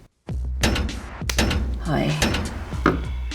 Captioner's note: metallic thumps